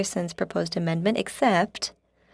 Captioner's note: speaking French